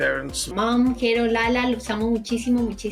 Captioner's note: speaking spanish